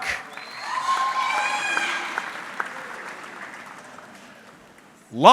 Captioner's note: audience cheering